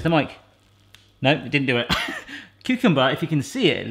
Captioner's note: chuckles